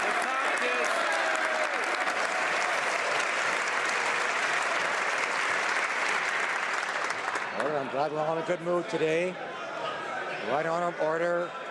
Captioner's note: some Applause